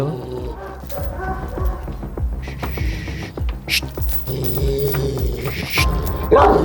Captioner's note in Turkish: Hırlama sesi ve tansiyon müzik